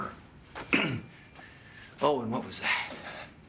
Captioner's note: clearing throat